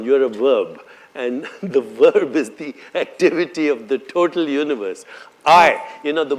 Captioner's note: laughs